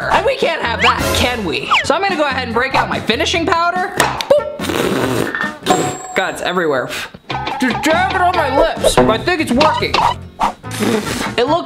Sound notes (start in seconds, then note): 4.6 blowing raspberries